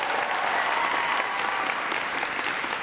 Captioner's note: applause